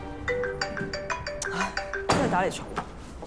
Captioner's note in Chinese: 來電鈴聲